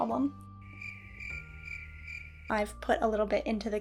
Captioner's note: crickets